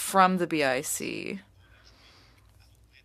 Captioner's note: speaking French